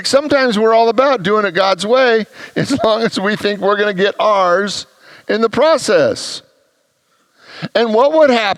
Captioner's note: congregants laugh